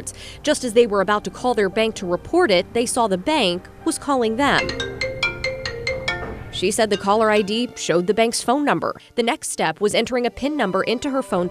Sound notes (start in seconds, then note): 4.4 phone ringing